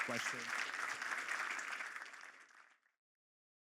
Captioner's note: applause